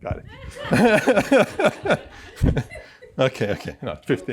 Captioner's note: laughter